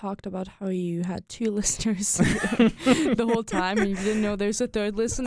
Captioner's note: both laugh